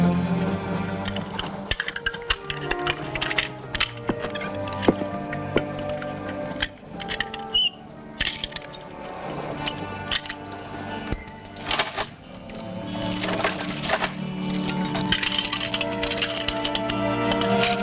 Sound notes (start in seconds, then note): 1.3 clinking; 8.5 key drops on floor, padlock rattling